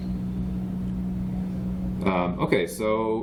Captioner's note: background chatter